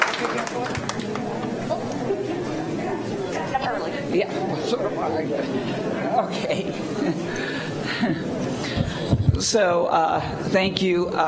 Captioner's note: applause